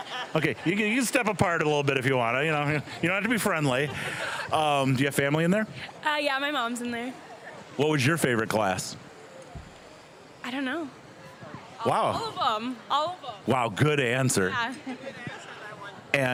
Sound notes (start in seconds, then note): 2.6 both students laughing